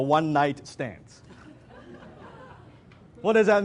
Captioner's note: audience laughs